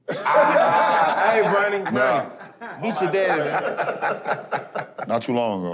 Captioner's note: laughter